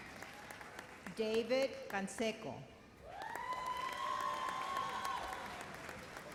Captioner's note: cheers and applause